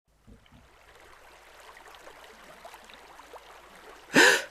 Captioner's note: river sounds; surprised gasp